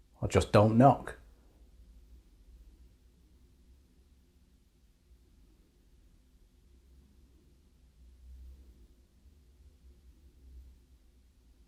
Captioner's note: silence